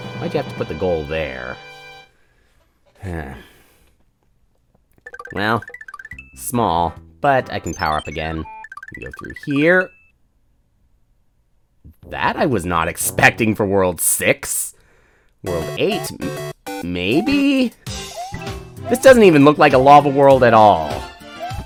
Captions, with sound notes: Why'd you have to put the goal there? (*sigh*) Well...small, but I can power up, again. We go through here...? That i was not expecting for World 6. World 8...maybe...? This doesn't even look like a lava world, at all!